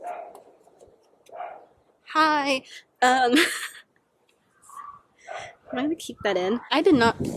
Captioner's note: laughter